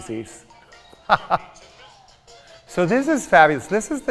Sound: chuckles loudly

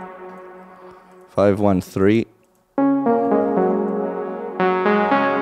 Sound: filter cutoff

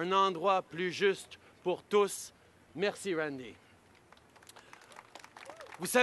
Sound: applause

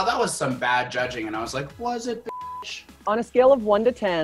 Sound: beep

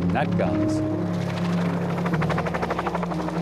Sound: airplane blades buzzing

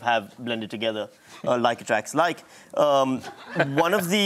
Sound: laughter

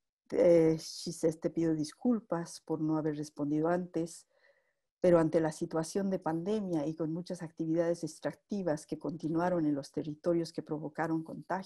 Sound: spanish speech

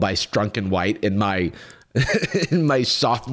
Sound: laughs

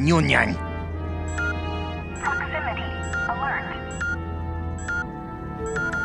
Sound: beeping

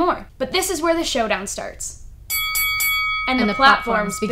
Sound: bell ringing

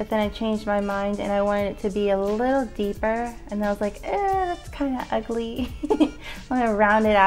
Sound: chuckles

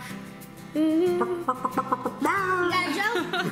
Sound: clucking sounds

